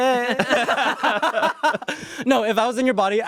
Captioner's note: everyone laughs